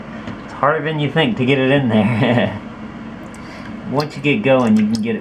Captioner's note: laughs